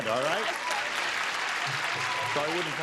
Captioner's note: clapping